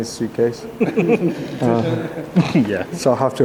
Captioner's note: laughs